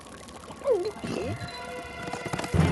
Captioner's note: gulps